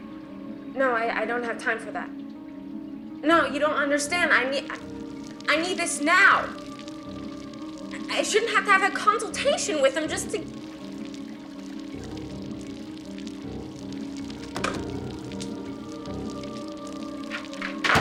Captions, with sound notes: No, I don't have time for that. No, you don't understand. I need this now. I shouldn't have to have a consultation with him just to- (water trickling) (soft suspenseful music)